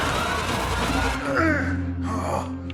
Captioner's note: Connie breathing frantically; Roy groans in pain